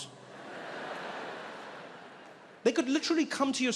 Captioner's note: audience laughing